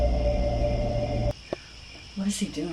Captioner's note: crickets